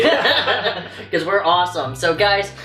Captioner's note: laughs